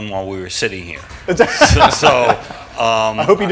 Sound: laughter

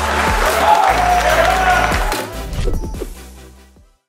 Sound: crowd cheers and applauds

